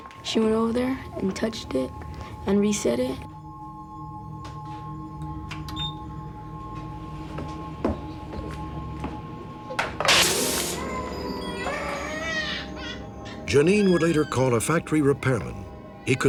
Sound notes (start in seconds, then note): 10.1 explosion; 11.3 baby crying